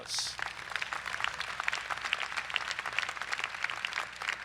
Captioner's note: crowd applauds